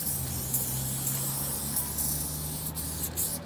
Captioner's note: hissing spray noises